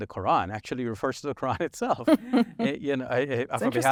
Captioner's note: chuckles